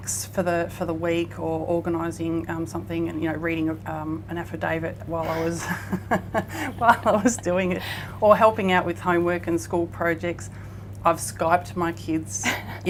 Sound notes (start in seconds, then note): 5.2 both women laughing